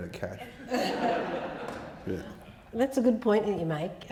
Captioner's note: audience laughing